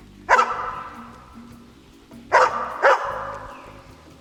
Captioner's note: dog barking